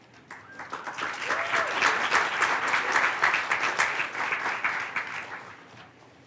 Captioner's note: applause